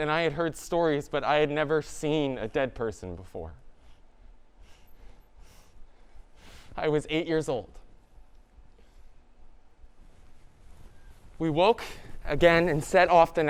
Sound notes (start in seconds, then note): none